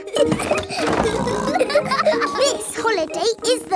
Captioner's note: laughing and snorting